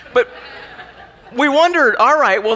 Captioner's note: laughing